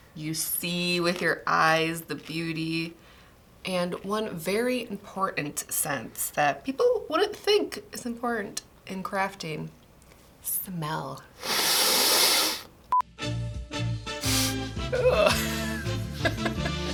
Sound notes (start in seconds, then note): 11.4 sniffs